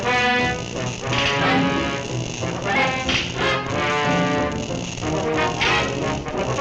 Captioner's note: dramatic music; electricity crackling